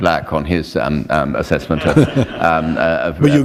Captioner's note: chuckle